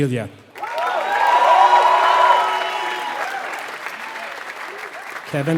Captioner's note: applause